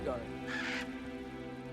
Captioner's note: caw